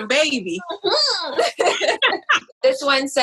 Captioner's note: laughs